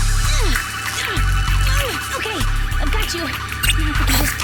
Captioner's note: grunting